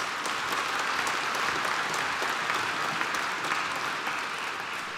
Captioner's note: applause